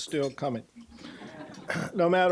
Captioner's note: audience laughing